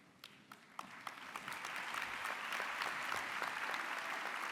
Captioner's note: applause